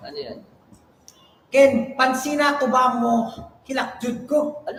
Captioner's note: in Bisaya